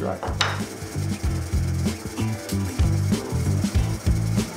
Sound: drill vibrating

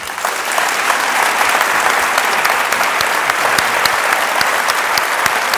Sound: audience applause

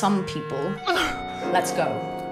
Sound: pained gasp

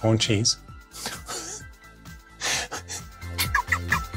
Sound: laughs

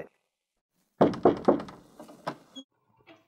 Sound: knock on the door

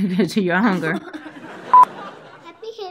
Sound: audience laughs; laughs; beeps

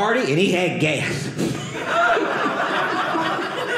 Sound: audience laughing

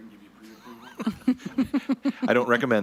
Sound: all laughing

